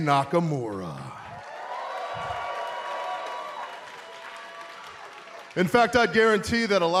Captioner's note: cheers and applause